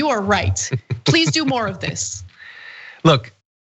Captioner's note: laugh